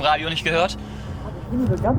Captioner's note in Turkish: belirsiz nefes